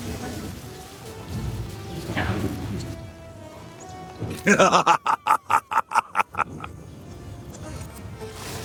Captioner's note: laughter